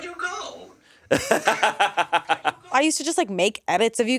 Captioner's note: laughs